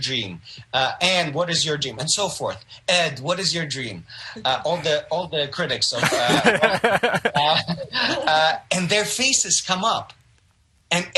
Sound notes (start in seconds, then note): 4.4 chuckles; 6.0 all laugh